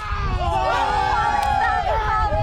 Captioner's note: all cheering